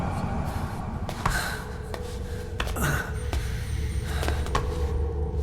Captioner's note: tense atmospheric music; Venom Snake panting